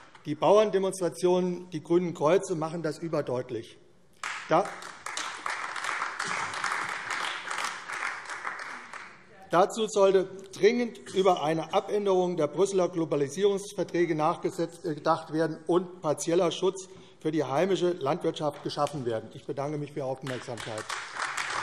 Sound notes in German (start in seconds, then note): 4.2 Beifall AfD; 20.2 Beifall AfD